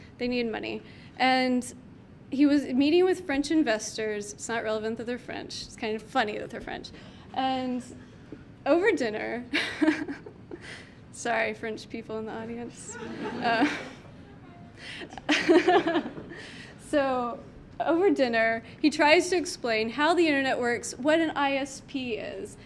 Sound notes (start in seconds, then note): 12.9 audience laughing; 15.0 laughing